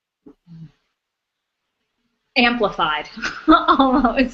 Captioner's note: laughs